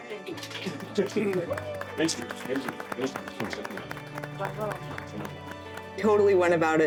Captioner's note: applause